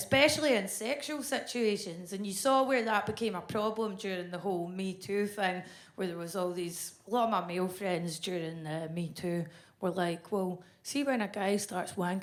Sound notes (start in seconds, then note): none